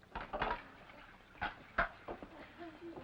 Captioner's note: ice clatters & water pours